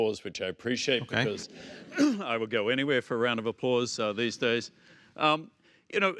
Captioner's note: laughs